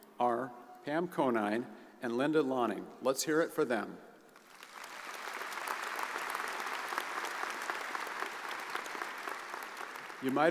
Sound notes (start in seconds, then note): 4.4 audience applauds